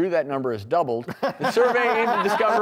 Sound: laughing

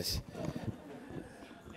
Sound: laughter

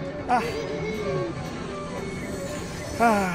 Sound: sighs

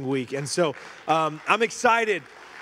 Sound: congregation applauding

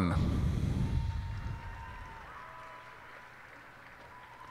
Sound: cheers and applause

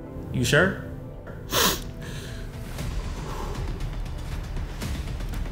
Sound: Bryan sniffles

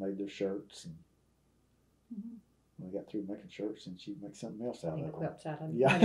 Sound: laughs

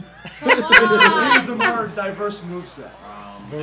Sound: laugh

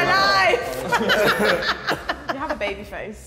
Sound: woman laughing

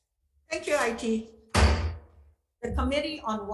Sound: gavel banging

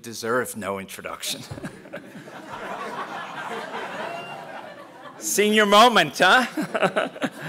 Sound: laugh; laugh

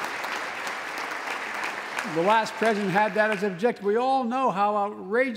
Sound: applause

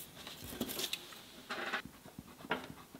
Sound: paper rustling; table squeaks; pencil scratching

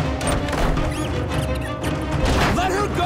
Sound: chittering

